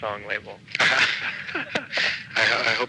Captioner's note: laughing